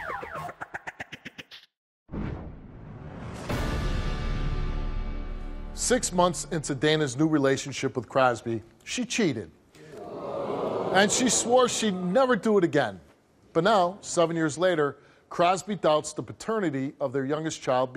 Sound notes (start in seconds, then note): 2.2 dramatic music; 9.8 audience jeers